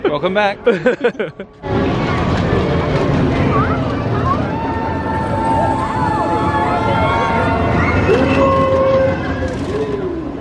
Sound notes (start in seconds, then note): 0.6 laughs; 5.9 people cheering